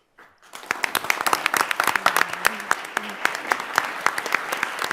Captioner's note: audience applauds